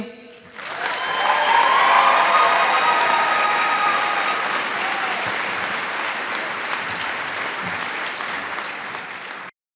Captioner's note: cheers and applause